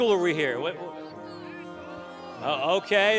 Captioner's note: students chatter indistinctly